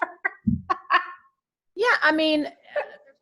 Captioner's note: laughing